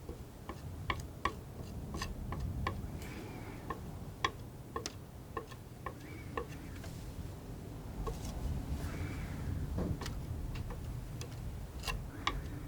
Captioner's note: tapping